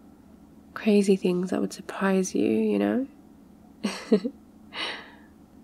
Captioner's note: laughs